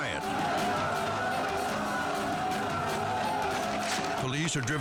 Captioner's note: people shouting